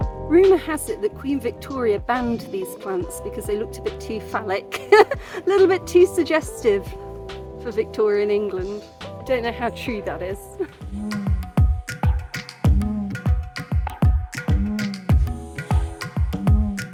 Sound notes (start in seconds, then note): 4.7 laughing; 11.1 african percussion music